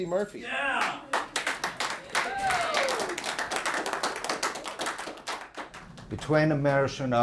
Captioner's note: children clapping